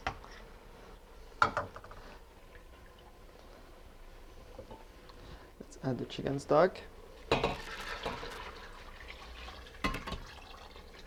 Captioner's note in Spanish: sonido vertiendo